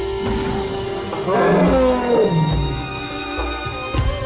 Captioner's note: elephant trumpeting